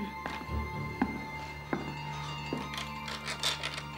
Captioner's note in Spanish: pasos